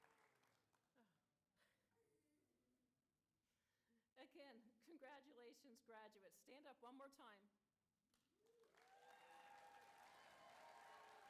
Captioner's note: applause